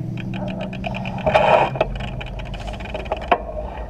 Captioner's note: gears clicking